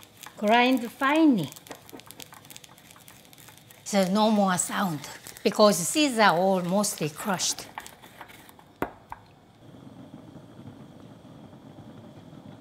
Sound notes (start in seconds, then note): 9.6 soup bubbles